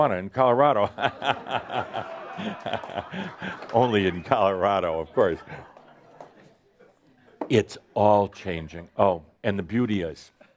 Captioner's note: lots of laughter